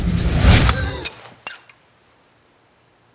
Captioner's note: gasps